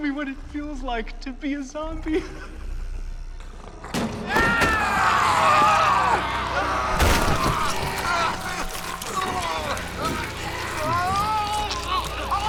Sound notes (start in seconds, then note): 2.2 snarling; 5.7 screams; 6.9 munching